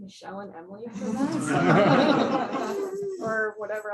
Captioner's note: laughter